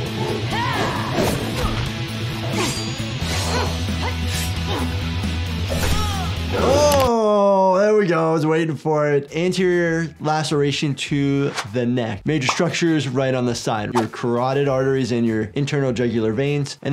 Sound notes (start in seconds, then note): 2.7 swooshing